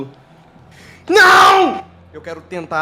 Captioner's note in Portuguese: Gritando